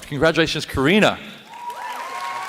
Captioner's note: applause